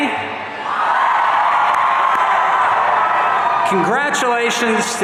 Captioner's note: audience cheering